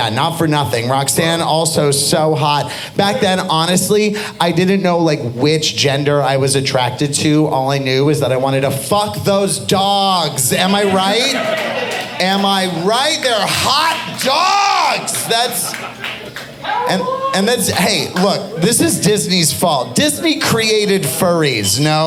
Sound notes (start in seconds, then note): 14.0 audience applauding